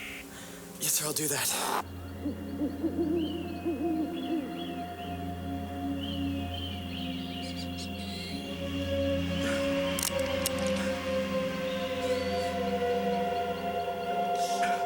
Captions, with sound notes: - Yes sir, I'll do that. (owl hooting) (gentle music) (animals chirping) (gun clicking)